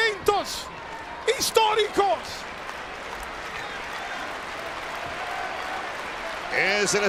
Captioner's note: applause